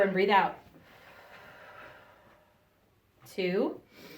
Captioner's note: breathes out